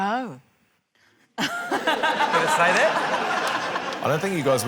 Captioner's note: laughter